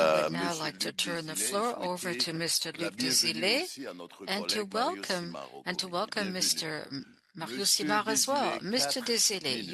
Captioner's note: speaking French